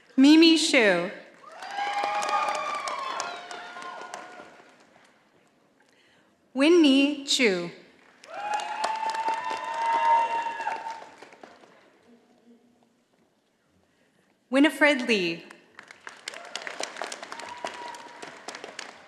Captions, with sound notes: Mimi Shyu. (audience applauding) Winnie Chu. (audience applauding) Winifred Lee. (audience applauding)